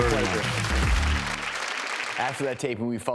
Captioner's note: audience applauds